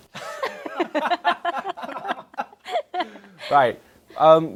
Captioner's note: laughs